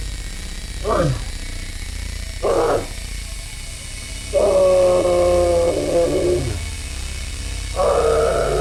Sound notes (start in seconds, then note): 0.8 creature grunting